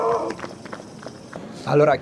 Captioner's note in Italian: Applauso